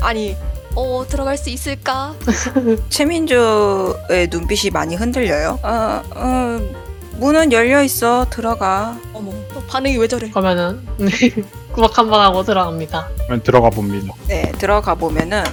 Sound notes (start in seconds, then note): 11.0 laugh